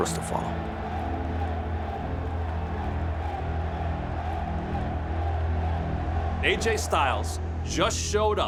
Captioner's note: applause